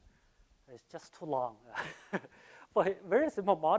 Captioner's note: laughs